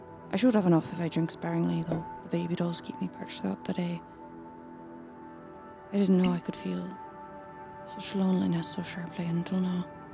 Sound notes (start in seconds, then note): none